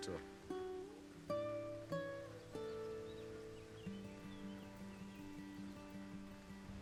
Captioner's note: birds chirping; gentle music